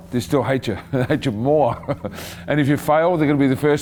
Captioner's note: chuckling